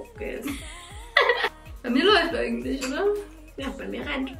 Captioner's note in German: lacht